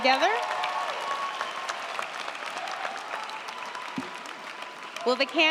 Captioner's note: crowd cheering; crowd clapping